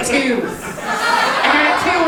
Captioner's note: audience laughing